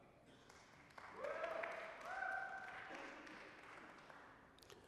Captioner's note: applause, cheering